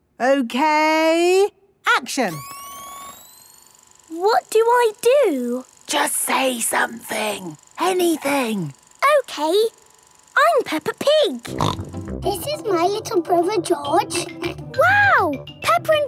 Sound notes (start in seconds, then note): 2.8 camera whirring; 6.0 whispering